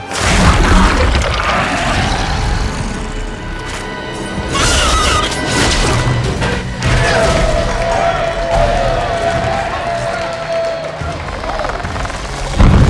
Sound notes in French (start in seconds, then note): 7.7 tous applaudissent